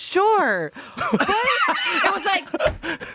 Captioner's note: everyone laughs